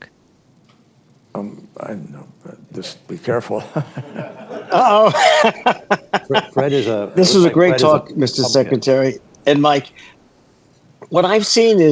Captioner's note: laughter